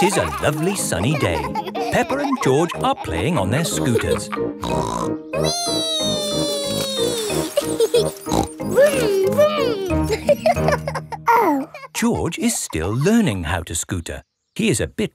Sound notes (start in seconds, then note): 4.6 snorts; 7.9 laughs and snorts; 10.5 laughing